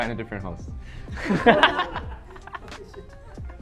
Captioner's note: laughs